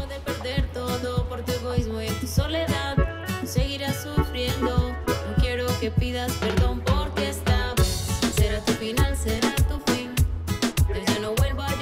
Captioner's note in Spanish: Ríe